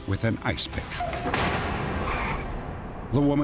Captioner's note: bangs